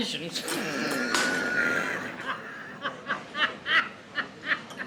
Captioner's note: Alfred laughs